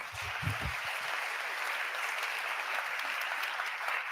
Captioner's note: audience applauding